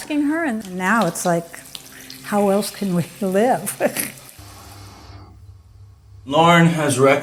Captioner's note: chuckles